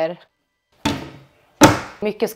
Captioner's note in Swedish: Skåpslucka låter